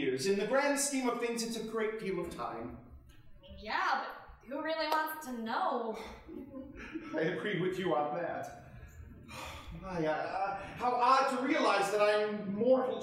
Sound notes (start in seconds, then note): 9.2 sighing